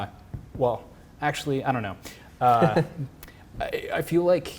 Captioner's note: laughs